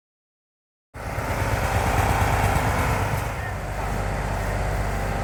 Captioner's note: loud truck noise